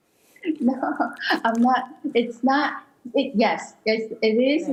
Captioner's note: questioner laughter